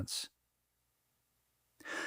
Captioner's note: pause